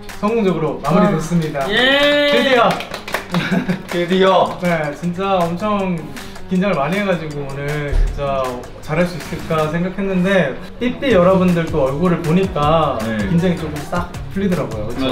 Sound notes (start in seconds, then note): 1.8 giving an applause for each other who has worked hard